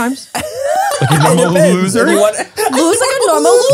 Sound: everyone laughs

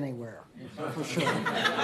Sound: laughter

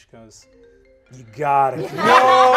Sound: phone ringing

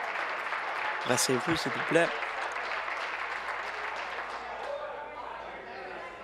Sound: applause

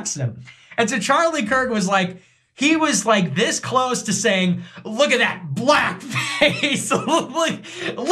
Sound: laugh

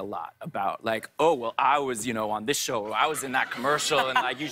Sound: laughs

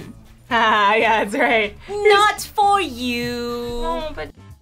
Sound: laughs

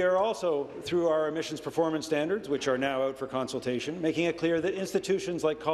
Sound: applause

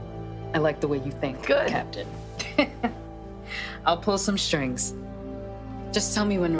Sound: chuckles

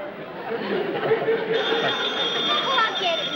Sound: telephone rings

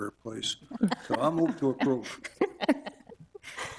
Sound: all laughing

